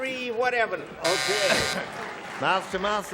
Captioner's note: buzzer